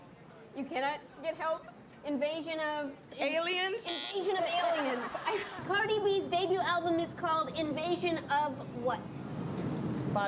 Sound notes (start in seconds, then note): 3.8 buzzer; 4.4 laughter